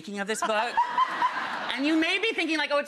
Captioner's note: laughing